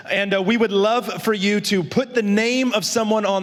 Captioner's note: none